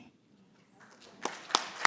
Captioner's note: applause